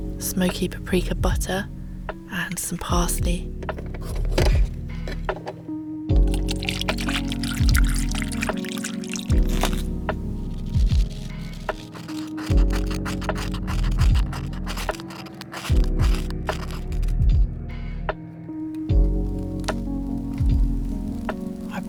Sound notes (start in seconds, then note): 4.3 chop; 6.1 slosh; 10.7 chop